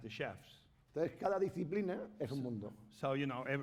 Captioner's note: speaking spanish